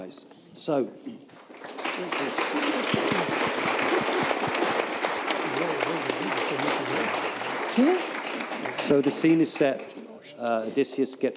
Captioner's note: applause